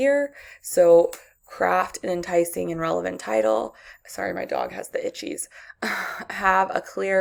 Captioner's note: tinkle noise in the background